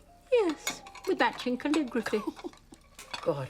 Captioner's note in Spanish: Robyn riendo